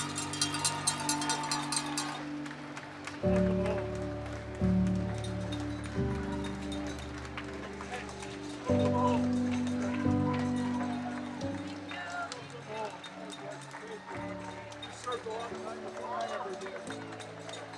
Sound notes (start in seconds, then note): 3.2 cowbell rings; 3.2 crowd cheers